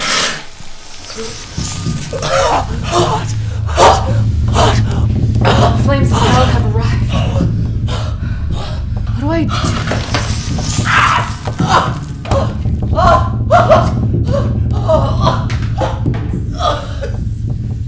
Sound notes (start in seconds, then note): 9.6 sizzling; 10.9 martin screams